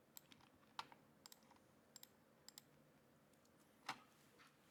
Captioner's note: mouse clicks